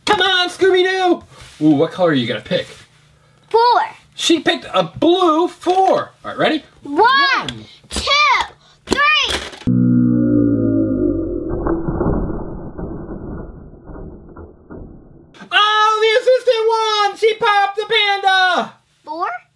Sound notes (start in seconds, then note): 9.6 slow motion rumbling